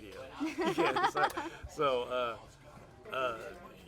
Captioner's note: laughs